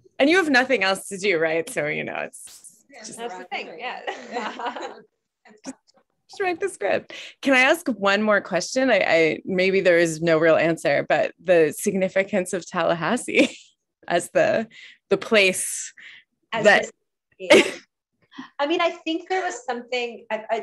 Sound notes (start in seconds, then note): 4.0 laughter